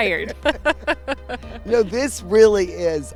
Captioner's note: laughter